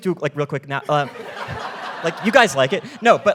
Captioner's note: audience laughing